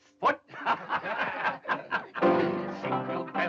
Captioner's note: laughing